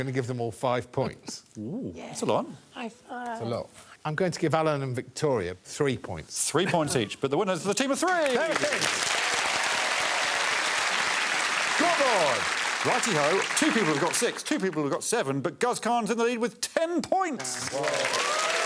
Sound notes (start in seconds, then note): 8.0 applause; 17.4 applause and cheering